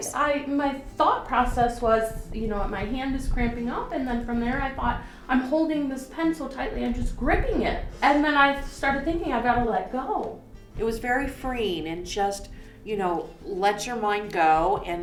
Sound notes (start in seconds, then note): none